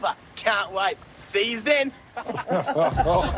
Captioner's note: laughter